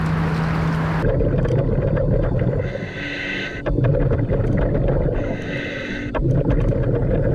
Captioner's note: gentle music continues; spectators chattering; traffic droning; mouthpiece hissing